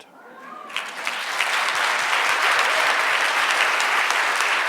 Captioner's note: audience applauds